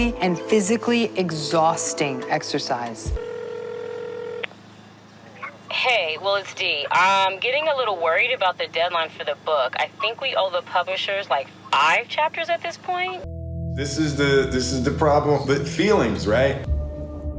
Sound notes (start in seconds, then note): 3.0 phone rings